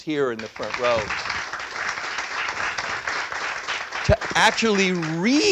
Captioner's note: applause